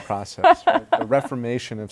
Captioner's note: laughter